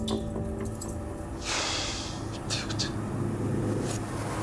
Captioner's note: sighs